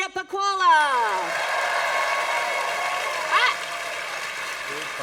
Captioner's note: applause